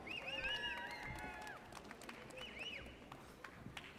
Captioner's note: audience cheers